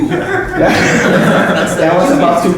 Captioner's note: laughter